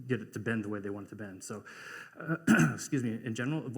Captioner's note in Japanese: 咳払い